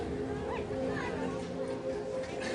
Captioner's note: indistinct chatter